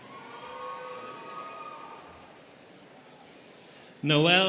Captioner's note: students cheering